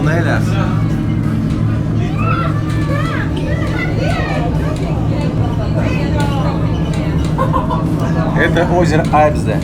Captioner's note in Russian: гомон голосов